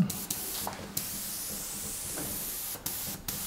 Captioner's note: airbrush hissing